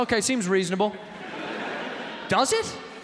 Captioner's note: audience laughing